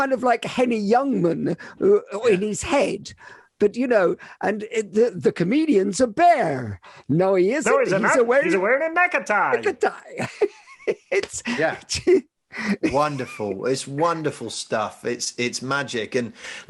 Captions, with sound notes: kind of like a Henny Youngman in his head, but you know, and the comedians a bear, no, he isn't. - No he's not, he's wearing a neck-a-tie. - Neck-a-tie. (laughing) It's- - Yeah. Wonderful, it's wonderful stuff, it's magic.